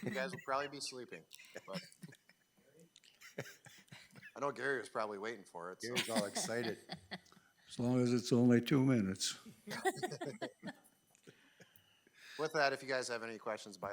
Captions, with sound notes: You guys will probably be sleeping, but. I know Gary was probably waiting for it, so. Gary was all excited. (trustee laughing) As long as it's only two minutes. (trustees laughing) With that, if you guys have any questions,